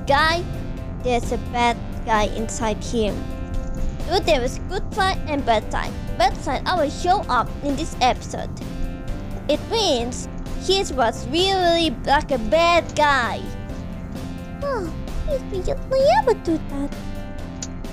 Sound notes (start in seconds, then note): 14.4 sighs